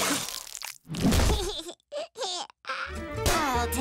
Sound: laughing

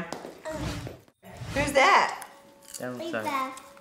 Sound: none

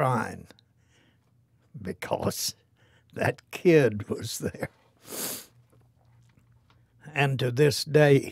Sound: sniffle

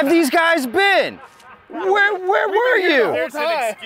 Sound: men laughing

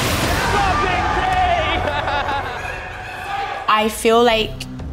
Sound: laughs

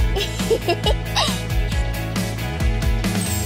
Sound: girls giggling

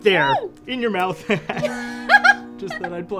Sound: laughs

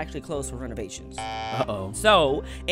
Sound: buzzer

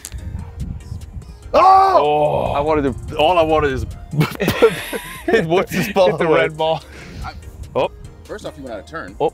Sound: laugh

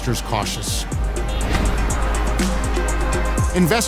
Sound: horns hooting; traffic whooshing

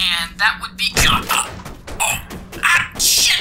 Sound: puerto rico yells

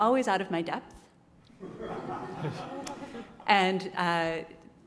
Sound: laugh

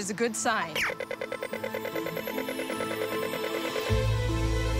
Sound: pedestrian crossing trills

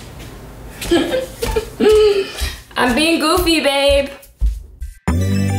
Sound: laugh

